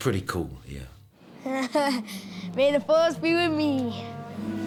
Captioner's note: laughs